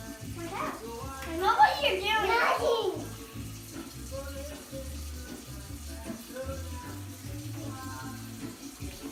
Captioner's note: random conversations going on